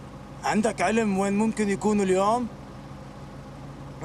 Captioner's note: speaks arabic